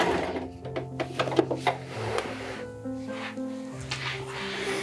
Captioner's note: none